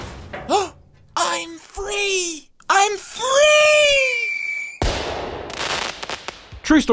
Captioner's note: wham; gasp; fireworks explosion